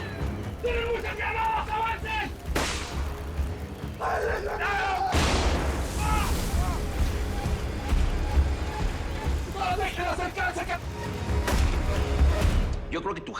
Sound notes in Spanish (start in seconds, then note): 5.1 Explosión; 5.9 Gritos; 12.6 Disparo